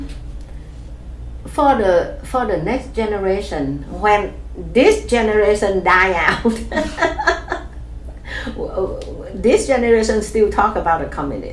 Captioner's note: laughs